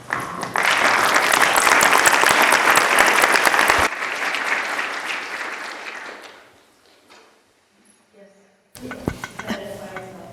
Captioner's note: applause